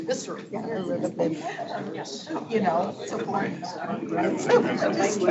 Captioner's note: board members murmuring